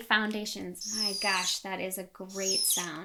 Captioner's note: marker squealing